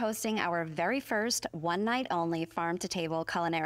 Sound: none

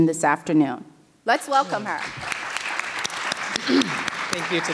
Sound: audience applauding

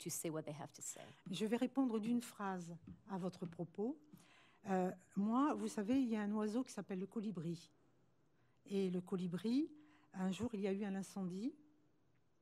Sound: speaking french

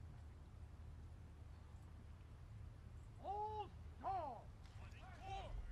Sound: soldiers shouting commands

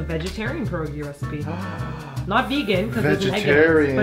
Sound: gasps

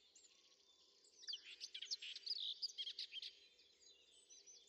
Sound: birdsong

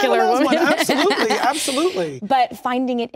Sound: laughs

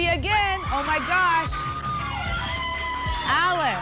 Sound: applause and cheering

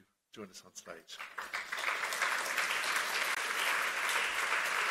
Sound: applause

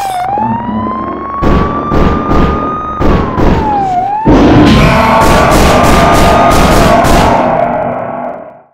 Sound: sirens; muffled Gunshots; screams

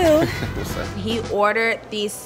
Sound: laughs

